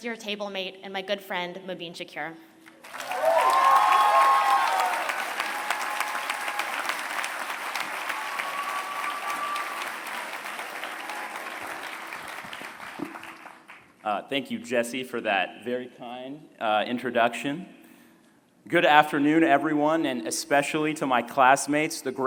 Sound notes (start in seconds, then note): 2.6 applause